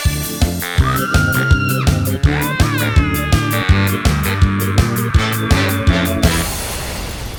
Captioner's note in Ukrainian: Крики